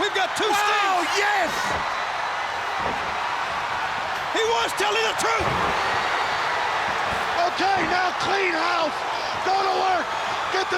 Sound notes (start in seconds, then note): 2.1 crowd cheering; 2.7 kicks thudding